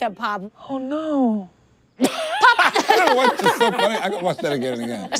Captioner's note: everyone laughs